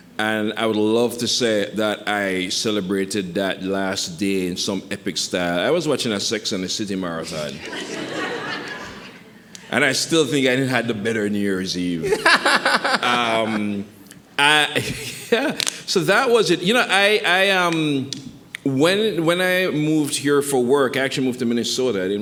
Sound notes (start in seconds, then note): 7.3 audience laughing; 12.0 laughing; 14.9 laughs